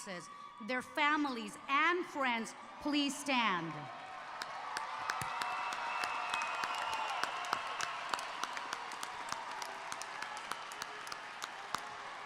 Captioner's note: cheers and Applause